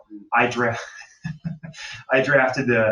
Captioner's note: laughs